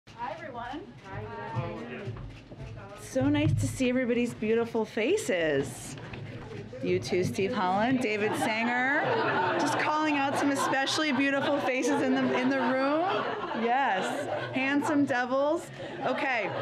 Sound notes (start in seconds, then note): 8.9 laughter; 15.2 laughter